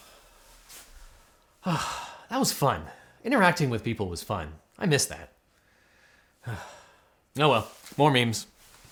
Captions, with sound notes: - That was fun. Interacting with people was fun. I miss that. (host sighs) Oh well, more memes.